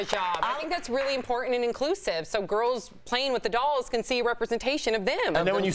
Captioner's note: applause